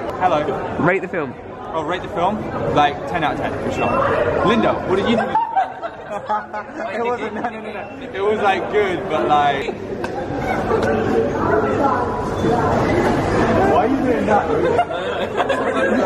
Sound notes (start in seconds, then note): 5.1 laughter